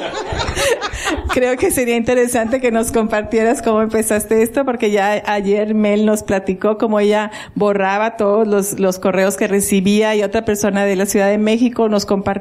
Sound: laughter

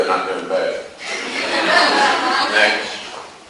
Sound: class laughs

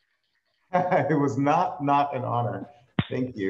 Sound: laughs

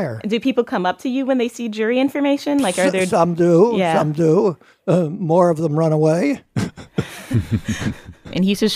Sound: laughs

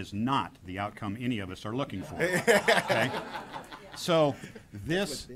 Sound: laughter

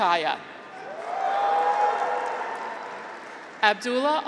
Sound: graduates cheer

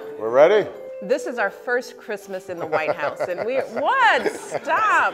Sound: laughing

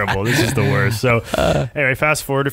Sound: laughing

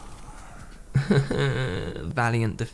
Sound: wimpy tears

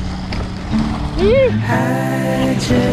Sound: hoots

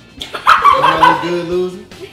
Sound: laughing

